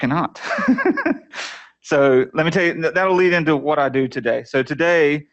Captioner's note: laughter